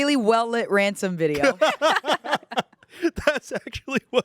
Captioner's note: everyone laughs